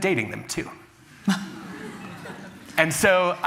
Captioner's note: chuckles